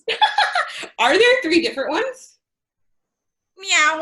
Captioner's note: laughs